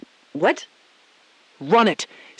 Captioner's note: beat